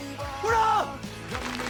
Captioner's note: applause